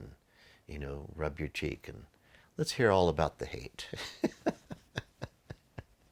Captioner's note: laughs